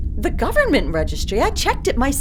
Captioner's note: none